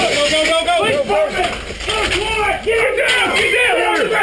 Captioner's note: murmurs